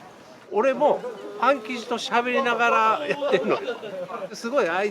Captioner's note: laughs